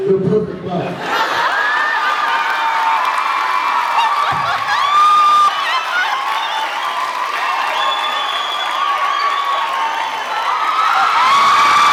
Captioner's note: laughs, cheers, applauds